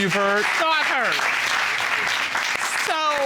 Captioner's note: audience applauding